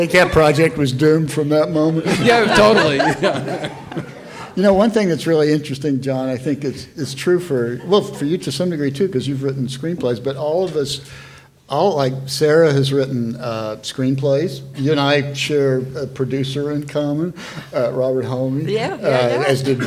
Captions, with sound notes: - I think that project was doomed from that moment. - Yeah, totally. (panelists laughing) - You know, one thing that's really interesting, John, I think is true for, well, for you to some degree too, 'cause you've written screenplays. But all of us, like, Sarah has written screenplays. You and I share a producer in common, as did Will,